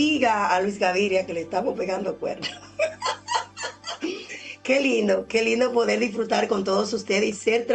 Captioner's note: laughs